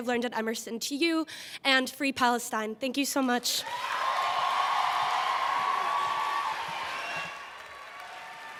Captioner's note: applause